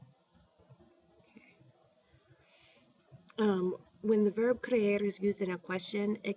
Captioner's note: spanish